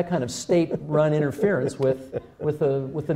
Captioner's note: laughter